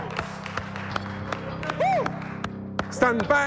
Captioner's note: applause